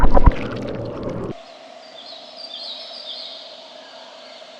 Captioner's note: birds chirping